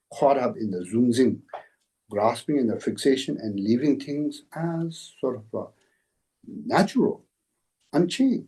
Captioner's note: tibetan; tibetan